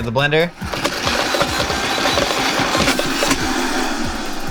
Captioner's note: blender whirs